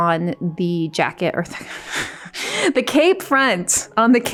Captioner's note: laughs